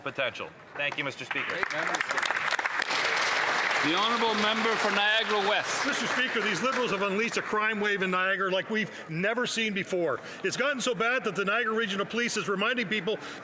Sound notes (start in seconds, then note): 7.4 some Applause